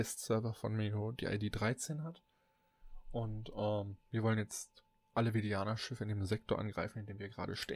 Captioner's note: ehm